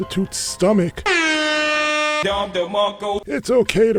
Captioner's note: air horn